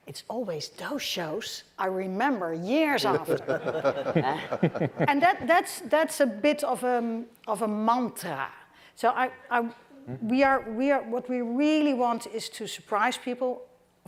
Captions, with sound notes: it's always those shows I remember years after. (audience laughing) And that's a bit of a mantra. So what we really want is to surprise people,